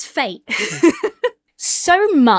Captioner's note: laughs